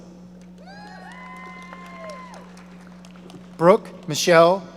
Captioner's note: audience applauding